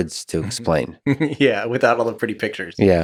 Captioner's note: Tim laughs